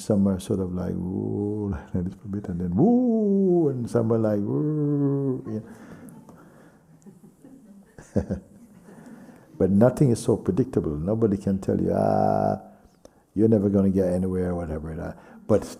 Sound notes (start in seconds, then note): 6.8 laughter